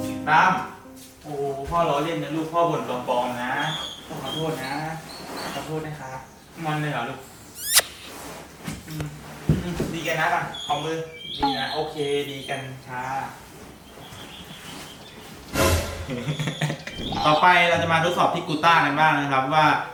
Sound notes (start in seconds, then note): 15.9 laughing